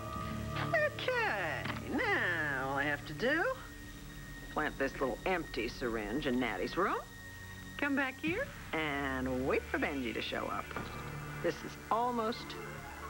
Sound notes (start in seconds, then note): 2.5 normal voice